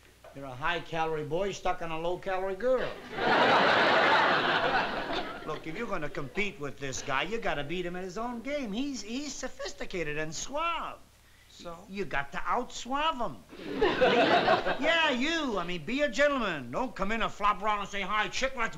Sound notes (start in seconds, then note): 3.0 laughter